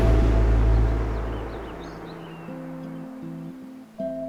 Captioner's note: birds chirping; ominous music